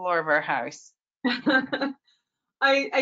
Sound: chuckles

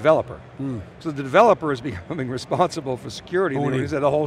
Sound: laughs

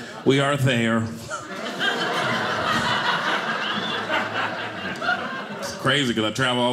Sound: audience laughing

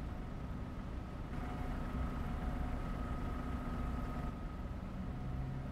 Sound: distant Bus Engine

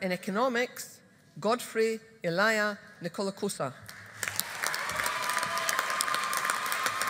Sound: audience applauding

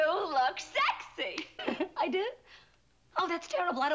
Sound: giggles

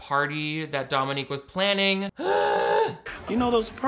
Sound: gasps

